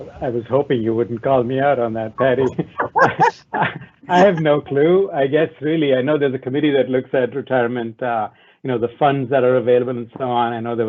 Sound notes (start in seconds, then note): 2.2 attendees laugh loudly